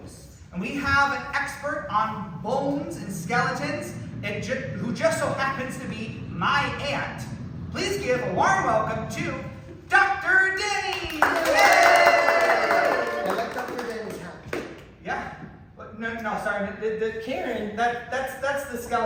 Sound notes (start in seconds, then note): 10.9 applause